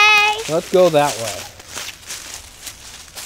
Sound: voiceover; leaves rustle

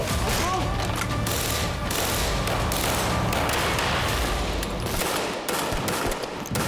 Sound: dramatic music; guns banging

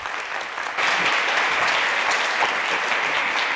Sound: crowd applause

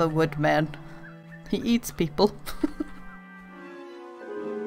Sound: laughs

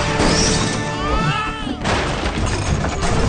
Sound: screaming

